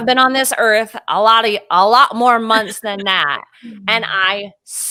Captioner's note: laughing